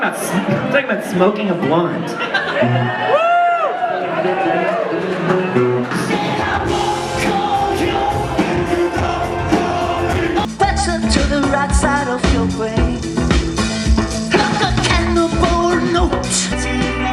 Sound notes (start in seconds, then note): 2.2 crowd yells; 6.2 upbeat music